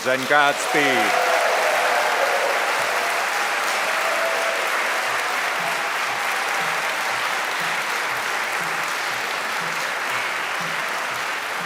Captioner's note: applause